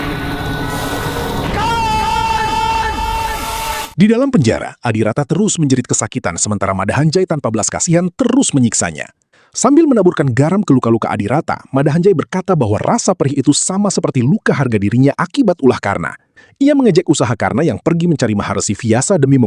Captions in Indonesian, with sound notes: [berteriak] Di dalam penjara, Adirata terus menjerit kesakitan. Sementara Mada Hanjai tanpa belas kasihan terus menyiksanya. Sambil menaburkan garam ke luka-luka Adirata, Mada Hanjai berkata bahwa rasa perih itu sama seperti luka harga dirinya akibat ulah karna. Ia mengejek usaha karna yang pergi mencari maharesi viasa demi